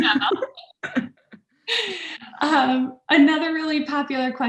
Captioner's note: all laughs